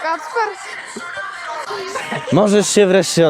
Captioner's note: lauging